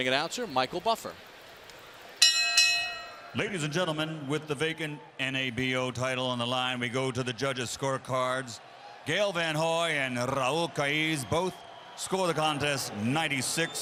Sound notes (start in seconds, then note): 4.4 bell dinging